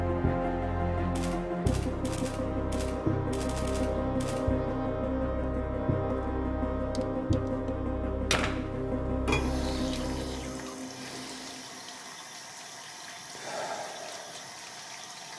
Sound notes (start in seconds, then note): 0.3 photograph sound; 9.4 water sound